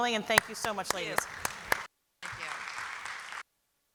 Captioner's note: applause